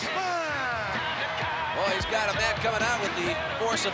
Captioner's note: audience cheering